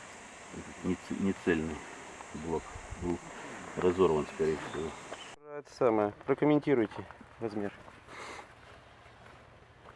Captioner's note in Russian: фыркает